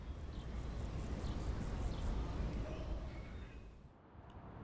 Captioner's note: birds chirping faintly